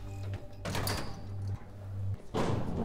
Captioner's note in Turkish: Kapı açılma sesi